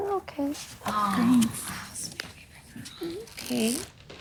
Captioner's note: murmuring continues